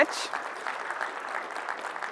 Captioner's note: applause